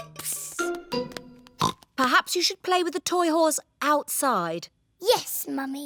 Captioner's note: oinks